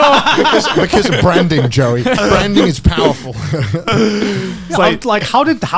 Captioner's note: laughs